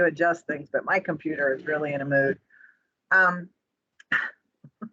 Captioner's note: chuckle